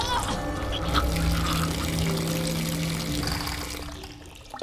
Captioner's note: water running; Nancy coughing